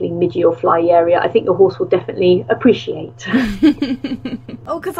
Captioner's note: laughs